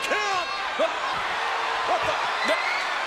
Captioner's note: crowd cheers